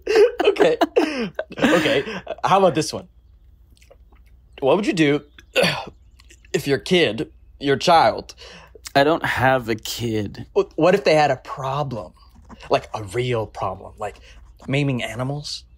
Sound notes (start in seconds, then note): 5.5 burp